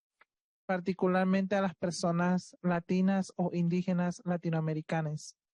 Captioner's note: speaking Spanish